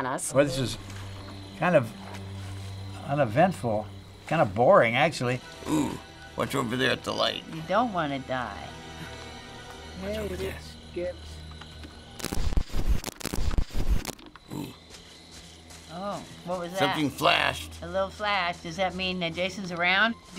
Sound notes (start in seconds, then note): 8.9 creepy music; 12.1 static